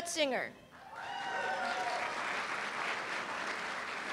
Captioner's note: applause